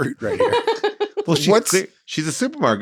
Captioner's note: laughs